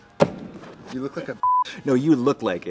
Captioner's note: beep